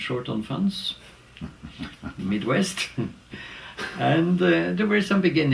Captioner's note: laugh